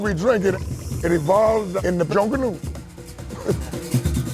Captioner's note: chuckles